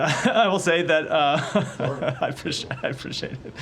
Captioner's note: laughter